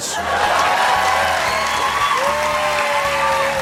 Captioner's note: cheers and applause